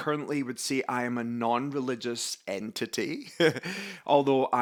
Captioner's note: laughs